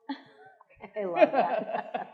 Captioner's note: attendees laughing